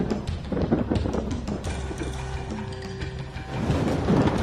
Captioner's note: thunder crackles